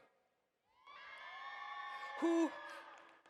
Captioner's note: audience cheers